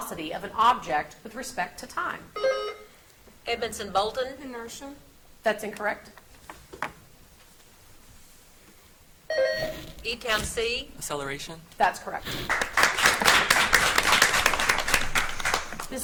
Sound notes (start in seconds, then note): 2.3 buzzer beeps; 9.3 buzzer beeps; 12.3 audience applauds